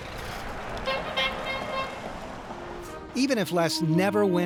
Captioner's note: truck horn playfully honks